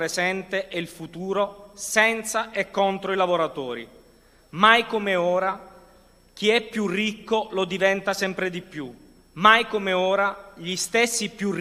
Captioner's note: speaking non-english language